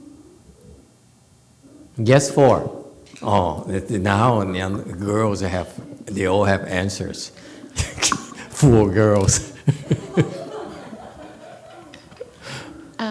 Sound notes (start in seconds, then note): 7.1 laughs; 9.2 laughs, audience laughs